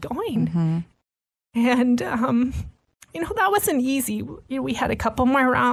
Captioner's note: voice breaking